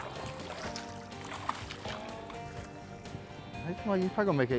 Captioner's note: water splashing